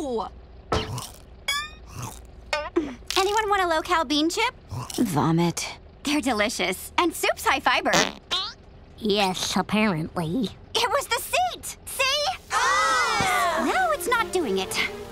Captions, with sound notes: [crunching] Anyone want a low-cal bean chip? - Vomit. - They're delicious, and supes high fiber. [farting] Yes, apparently. It was the seat! See? [groaning] Now it's not doing it.